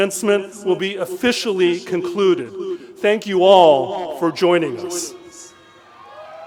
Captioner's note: applause